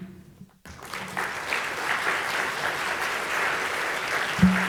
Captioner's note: audience applauding